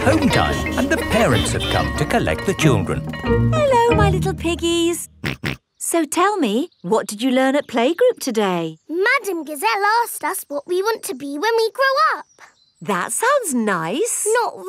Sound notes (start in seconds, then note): 5.7 snorts